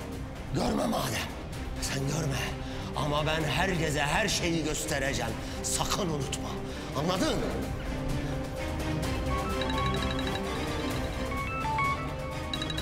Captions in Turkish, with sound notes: Görme madem, sen görme.. ..ama ben herkese her şeyi göstereceğim. Sakın unutma. Anladın mı? [Telefonlar çalıyor]